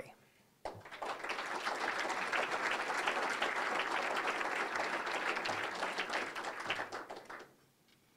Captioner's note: applause